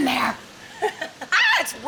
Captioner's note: giggling